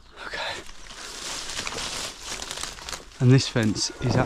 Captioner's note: leaves rustling